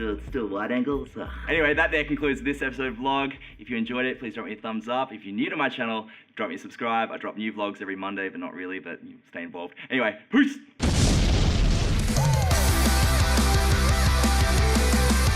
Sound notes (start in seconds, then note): 10.8 explosion; 11.9 rock music